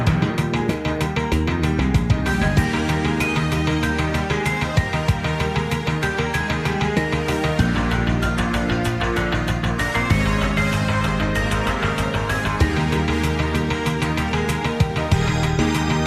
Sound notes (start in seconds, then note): none